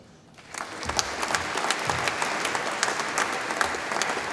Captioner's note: audience applauds